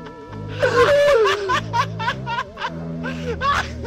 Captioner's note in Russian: Продолжают задыхаться со смеху